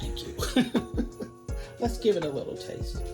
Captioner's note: chuckling